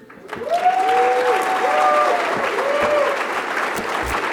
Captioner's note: cheers and applause